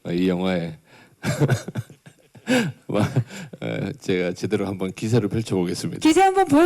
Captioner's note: laughs